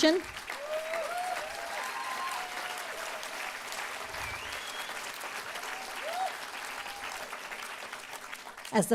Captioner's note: applause